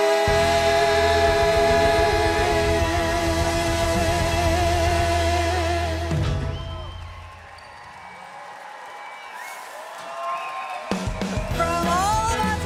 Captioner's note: cheers and Applause